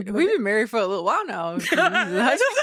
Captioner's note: laughing